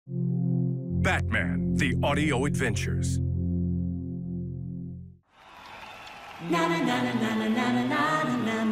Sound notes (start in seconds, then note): 5.2 cheers and applause